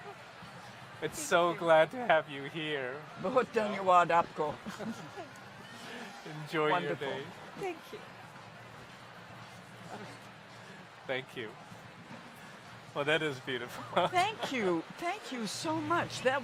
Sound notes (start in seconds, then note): 3.1 speaks in Hindi